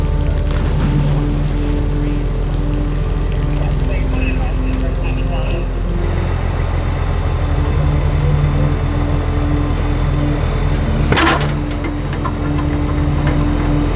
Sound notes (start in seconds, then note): 0.0 water splashing; 4.7 police radio chattering; 10.7 metal clanging